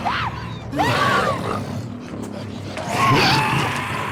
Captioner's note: screams; growling